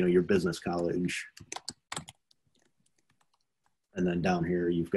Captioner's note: computer keyboard clacking